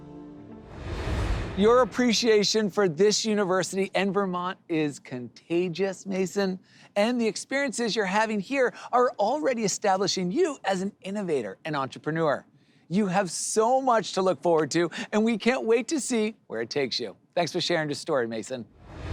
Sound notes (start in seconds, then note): 0.6 air whooshes; 18.7 air whooshes